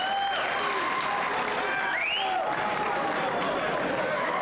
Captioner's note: crowd cheering